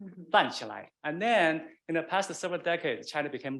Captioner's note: man speaking Chinese dialect